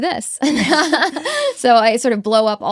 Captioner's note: both laughing